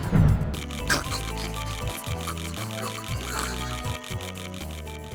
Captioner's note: scarfing